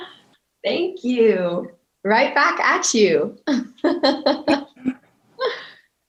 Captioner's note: chuckling